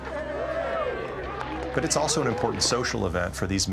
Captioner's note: men cheering